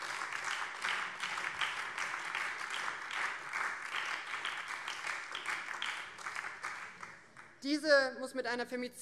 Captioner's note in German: Beifall